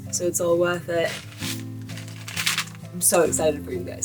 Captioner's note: bag crinkling